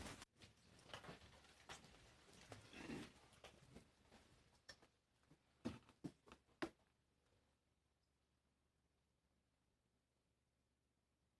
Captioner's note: moment of Silence